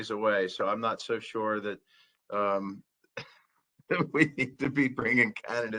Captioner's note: laughter